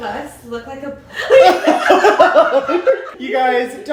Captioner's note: all laughing